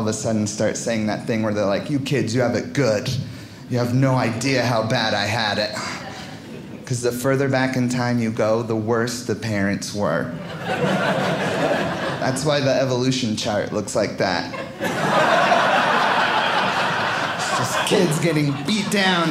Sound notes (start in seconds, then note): 10.3 audience laughing; 14.4 audience laughing